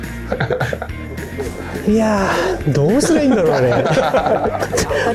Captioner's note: laughs